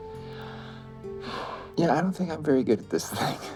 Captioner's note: sighs